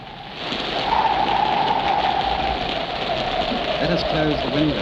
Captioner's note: wind howls